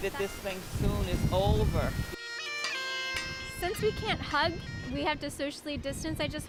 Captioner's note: horns honking